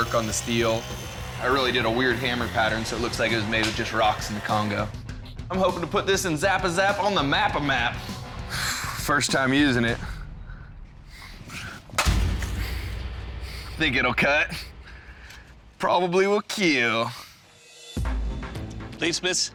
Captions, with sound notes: It's got all the intricate artwork on the steel. I really did a weird hammer pattern, so it looks like it was made just rocks in the Congo. I'm hoping to put this Nzappa zap on the mappa map. First time using it. [crash] Think it'll cut-- probably will "keel." [dramatic music]